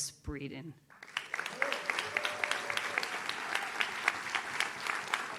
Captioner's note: audience claps